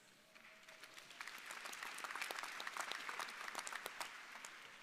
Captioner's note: crowd applauding